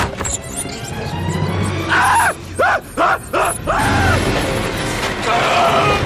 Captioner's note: genuine terrified noises